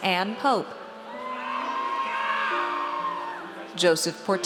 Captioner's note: audience cheers